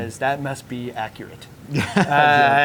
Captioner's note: chuckles